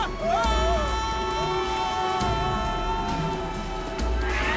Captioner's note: both screaming